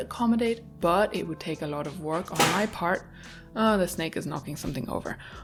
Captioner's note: a lound clatter